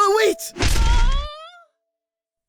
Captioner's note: candle screams